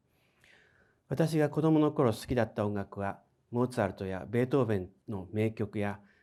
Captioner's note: speaking in foreign language